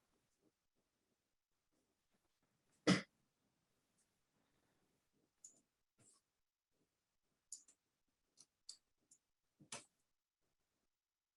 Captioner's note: short silence